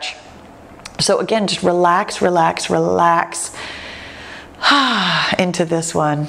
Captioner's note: exhales